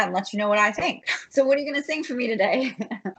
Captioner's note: laughs; laughs